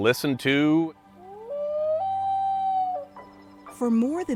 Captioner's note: loon calling